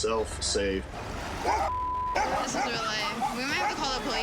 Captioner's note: dogs barking